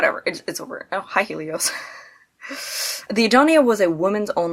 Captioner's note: chuckles